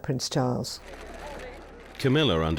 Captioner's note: camera shutters clicking